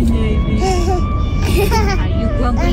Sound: laughing

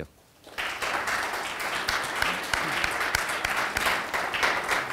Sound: audience applauding

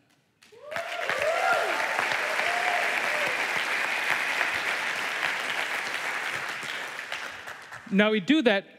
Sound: applause

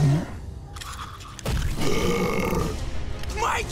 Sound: burping

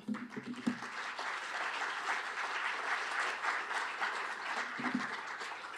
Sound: applause

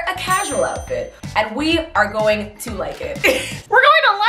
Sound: laughs

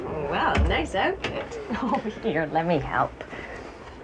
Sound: laughs

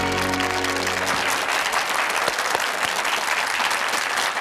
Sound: audience claps

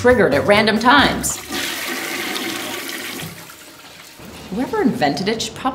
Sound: toilet flushing

